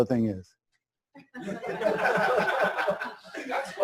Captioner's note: laughter